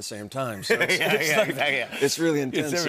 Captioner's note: laughter